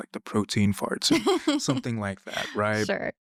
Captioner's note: laughing